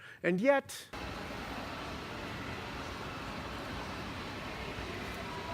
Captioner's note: sound of escalators